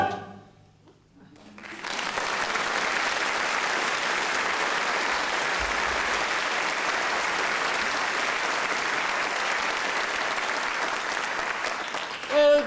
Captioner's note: applause